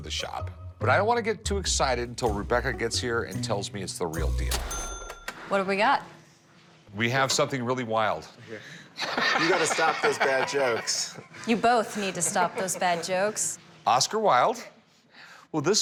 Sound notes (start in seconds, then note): 9.0 laughs